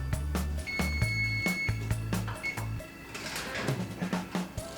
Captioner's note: timer beeping